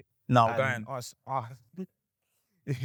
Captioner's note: chuckles